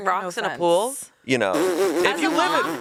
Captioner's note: Anna laughs